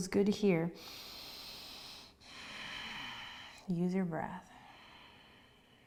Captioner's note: breathes deeply